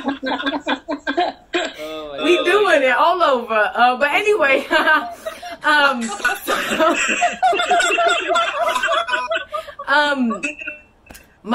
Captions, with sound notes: [ laughter ] "But anyway, "So- [ laughter continues ]